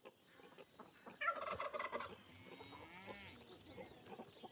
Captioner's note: gobbling